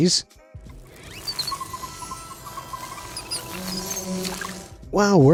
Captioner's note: fairy flutter, squeals